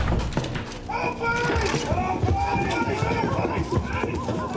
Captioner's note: men shouting